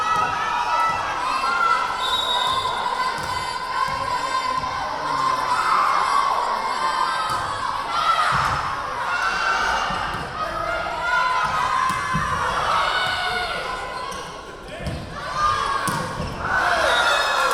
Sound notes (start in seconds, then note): 1.9 whistle blowing; 6.6 yelling